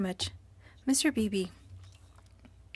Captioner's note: speaking French